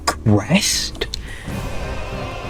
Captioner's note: inhales Oxygen